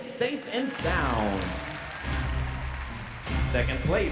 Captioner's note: crowd cheering